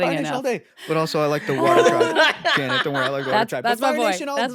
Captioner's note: laughing